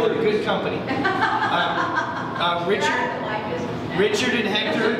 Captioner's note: laughs